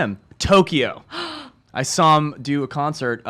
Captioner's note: gasps